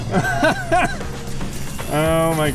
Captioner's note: laughing